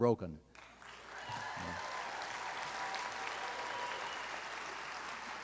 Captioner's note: applause